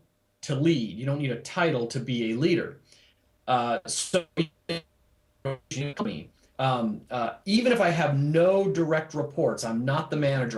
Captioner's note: audio skips